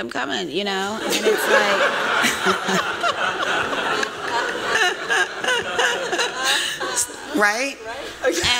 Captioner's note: laughter